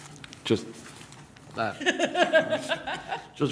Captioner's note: laughter